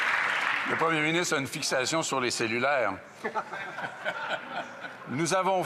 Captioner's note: some Applause